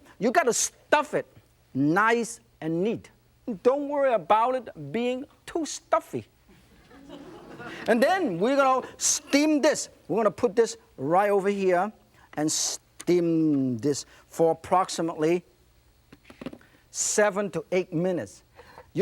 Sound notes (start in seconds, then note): 6.5 crowd laughing